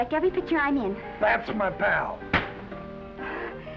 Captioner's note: smack